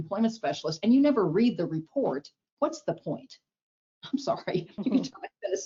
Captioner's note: chuckles